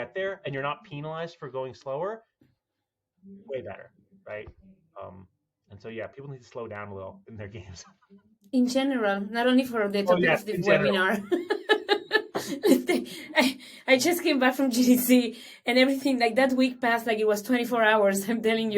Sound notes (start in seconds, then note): 13.1 laughter